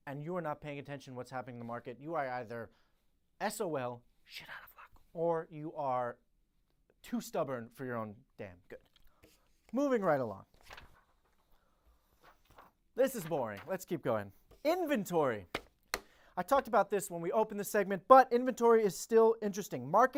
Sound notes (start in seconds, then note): 10.5 papers flapping; 12.1 paper flapping